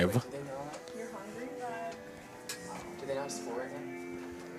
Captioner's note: indistinct chatter